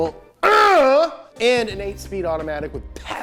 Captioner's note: exclaims